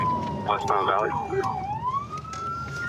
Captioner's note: sirens